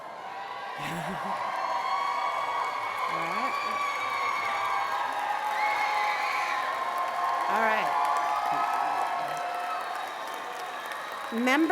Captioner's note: cheers and applause